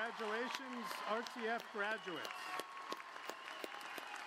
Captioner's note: applause